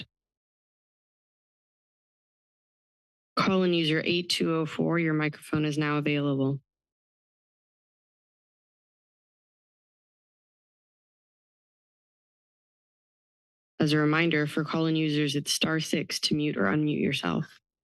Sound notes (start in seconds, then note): 0.1 pause; 6.8 silence